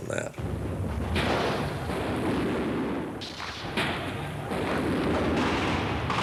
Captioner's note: gunfire